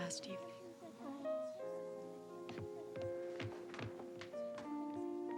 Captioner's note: kids murmuring; emotional music